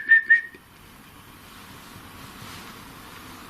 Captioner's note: whistles